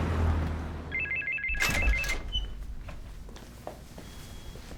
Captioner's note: phone ringing